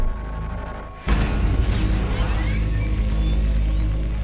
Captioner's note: unibike engine starts. action music begins